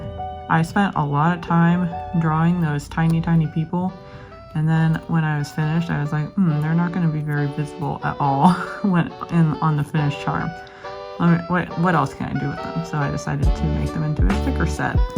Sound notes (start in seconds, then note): 8.4 laughs